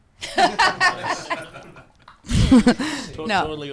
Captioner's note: group laughing